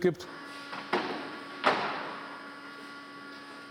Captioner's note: continuous whirring